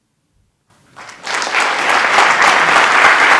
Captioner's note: applause